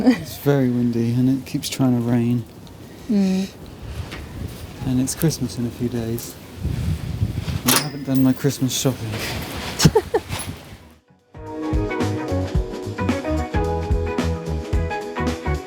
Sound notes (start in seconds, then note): 9.8 laughing; 11.5 upbeat music